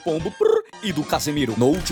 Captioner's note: pigeon noises?